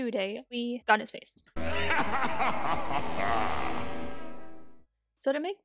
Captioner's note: menacing laughter